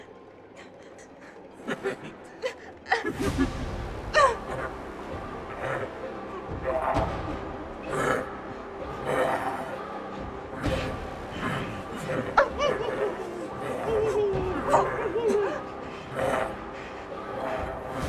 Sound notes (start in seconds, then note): 1.8 leprechaun laughing; 4.1 Sadie whimpering; 6.7 leprechaun grunting